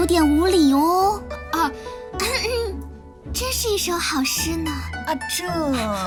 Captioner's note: coughs